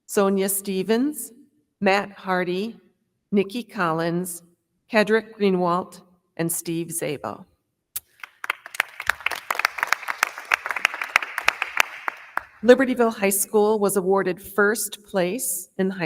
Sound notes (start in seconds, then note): 8.0 crowd clapping